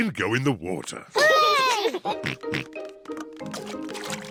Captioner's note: peppa and george cheer